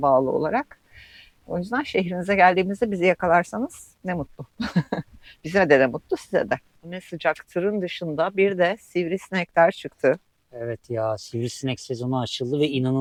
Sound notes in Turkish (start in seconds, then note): 4.6 kahkaha